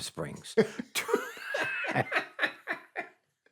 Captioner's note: both laughing